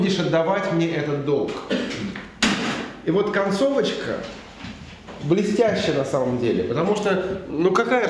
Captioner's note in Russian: стук кулака по столу